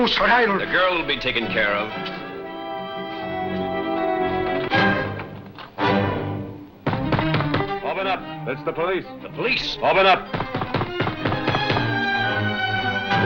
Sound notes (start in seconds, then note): 3.1 suspenseful music; 6.8 pounding; 10.2 pounding